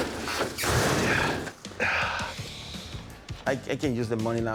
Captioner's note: grunting; sighs